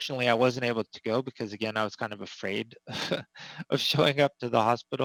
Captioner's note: laughs